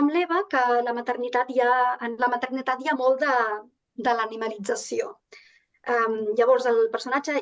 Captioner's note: continues speaking in Catalan